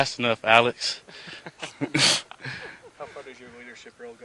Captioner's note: laughter